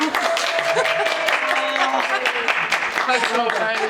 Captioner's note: clapping